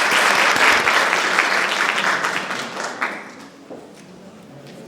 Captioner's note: applause